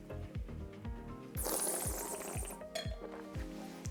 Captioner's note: slurps